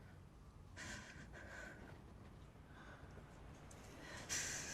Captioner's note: Maria's breath shaking